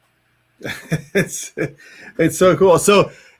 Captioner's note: laughs